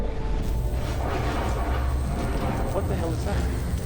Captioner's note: thunder rumbles